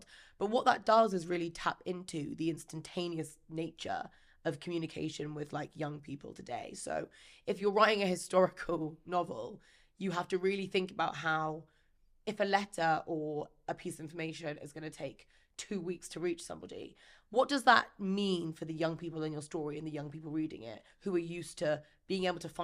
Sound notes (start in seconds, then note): none